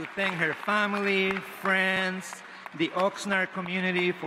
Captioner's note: applause